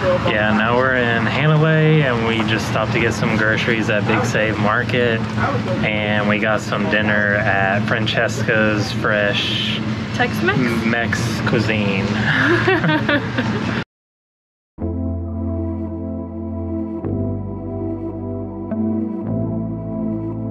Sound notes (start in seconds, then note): 12.0 laugh